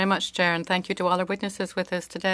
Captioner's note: speaking French